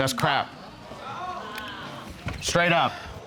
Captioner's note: audience exclaiming